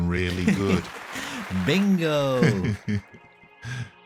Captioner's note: hands clapping; laughs